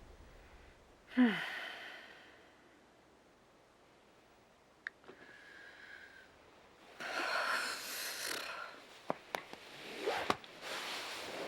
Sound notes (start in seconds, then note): 1.1 sighing